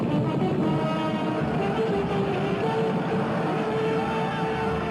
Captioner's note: army shouting